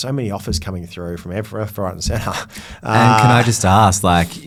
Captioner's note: laughs